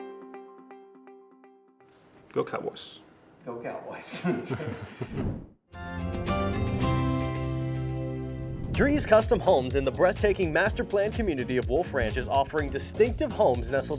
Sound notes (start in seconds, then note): 4.1 chuckling; 5.2 whoosh